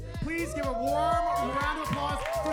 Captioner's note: upbeat music; audience cheering